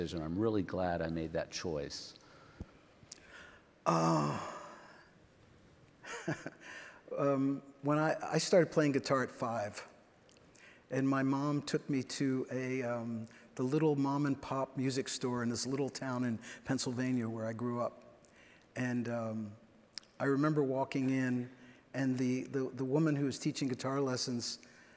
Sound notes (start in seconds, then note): 6.0 giggles